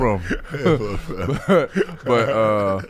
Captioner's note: laughing